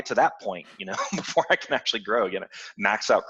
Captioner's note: laughs